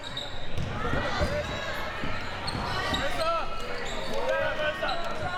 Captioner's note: audience chattering